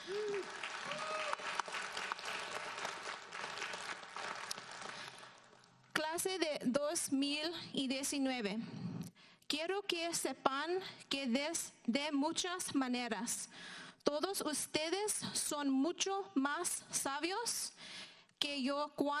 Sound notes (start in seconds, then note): 0.0 audience applauds; 6.3 speaking in foreign language